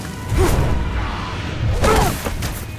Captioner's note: grunts